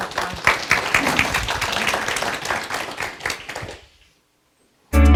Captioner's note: audience applause